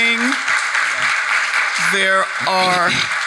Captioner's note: attendees applauding